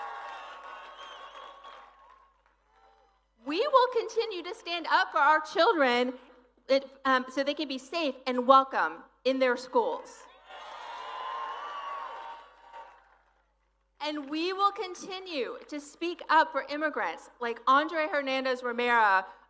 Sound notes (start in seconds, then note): 3.0 cheering; 13.0 applause